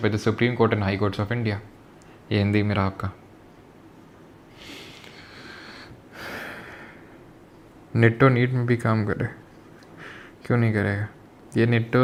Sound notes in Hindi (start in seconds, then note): 4.5 गहरी सांस लेने की आवाज़; 7.3 अचानक ज़ोर से सांस लेने की आवाज़